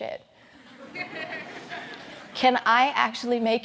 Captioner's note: audience laughs